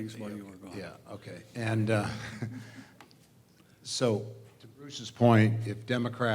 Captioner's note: laugh